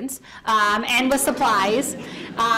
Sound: audience laughs

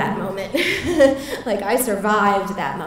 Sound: laughter

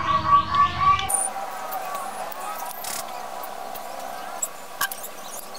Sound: clap

